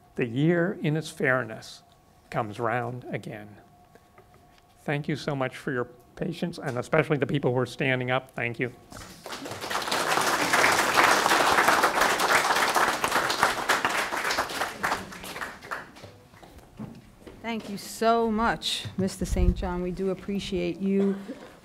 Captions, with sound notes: The year in it's fairness comes round again. Thank you so much for your patience, and especially the people who are standing up, thank you. (audience applauding) - Thank you so much. Mr. St. John we do appreciate you,